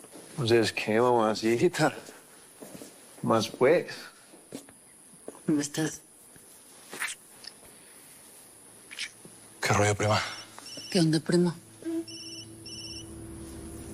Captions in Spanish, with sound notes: - ¿Entonces qué, mamacita? ¿Qué más, pues? - ¿Cómo estás? - ¿Qué rollo, prima? [Suena el celular] - ¿Qué onda, primo?